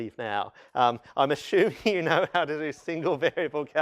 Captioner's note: laughter